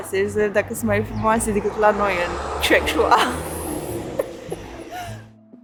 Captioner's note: laughing